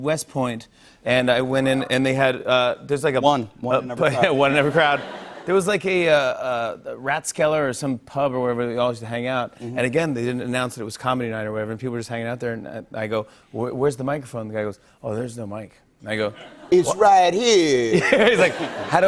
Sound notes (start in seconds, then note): 4.0 light laughter